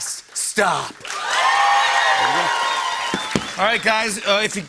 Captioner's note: cheers and applause